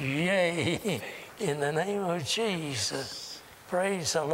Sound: laughter

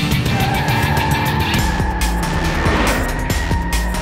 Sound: tires screeching

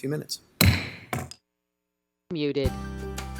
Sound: mayor hits gavel

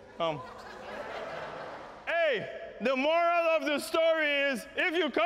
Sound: laughter

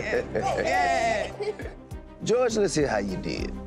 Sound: chuckling

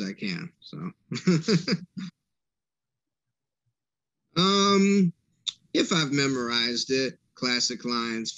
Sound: laughter

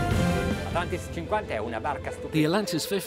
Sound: speaking in foreign language

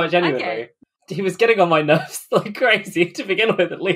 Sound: laughing

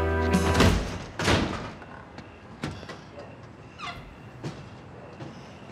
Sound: door thuds; hits

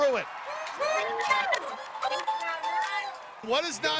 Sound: all cheering

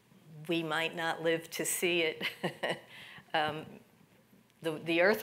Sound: chuckles

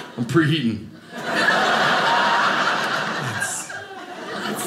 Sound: audience laughing

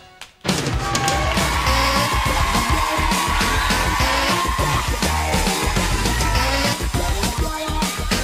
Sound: crowd applause

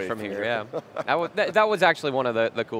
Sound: laughing

